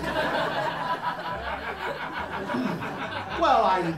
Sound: laughter

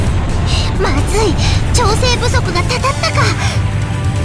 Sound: realization gasp

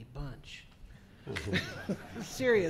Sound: laughing

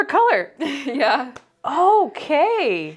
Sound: laughs

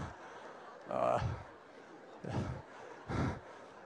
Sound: laughter

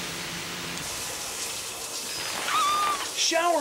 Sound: woman screams

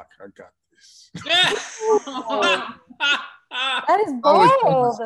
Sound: laughs

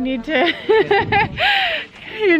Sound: laughter

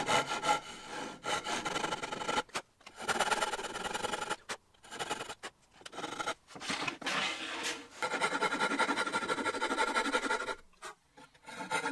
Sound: japanese hand saw being used to finis bevel

